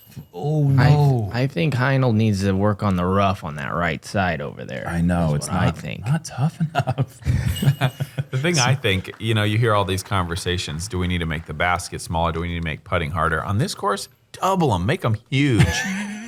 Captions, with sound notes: -Oh, no. -I think Hino needs to work on the rough on that right side over there. -I know. -It’s what I think. -It’s not tough enough. [laughter] -I think you hear all these conversations, "Do we need to make the basket smaller? Do we need to make putting harder?" On this course, double them, make them huge.